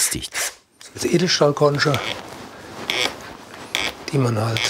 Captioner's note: crunching